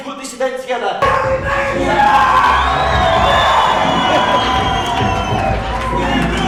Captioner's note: people cheering and screaming